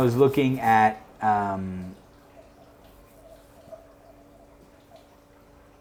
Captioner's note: water running